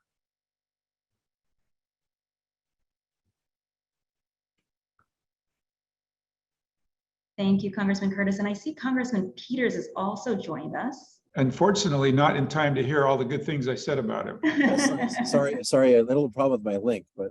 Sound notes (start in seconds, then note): 14.4 laughs